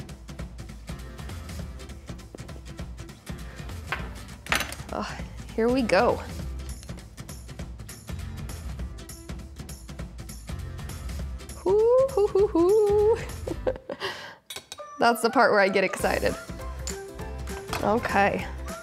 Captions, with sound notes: Oh, here we go. Hoo hoo-hoo-hoo. (laughs) That's the part where I get excited. Okay.